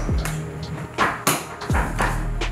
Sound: door knocks

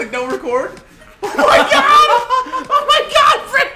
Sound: laugh

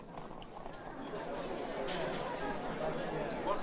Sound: anxious crowd chatter

